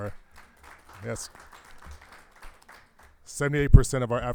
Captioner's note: crowd applauding